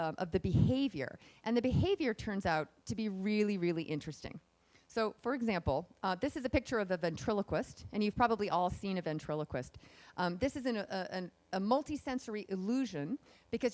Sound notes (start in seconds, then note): none